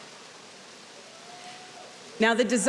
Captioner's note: audience cheering